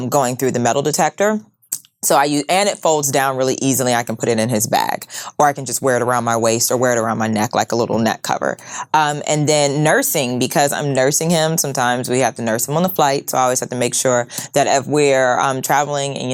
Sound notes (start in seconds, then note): none